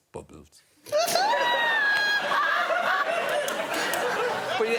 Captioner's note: laughter